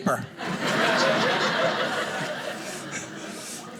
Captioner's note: audience laughing